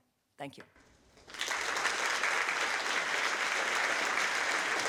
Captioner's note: audience applause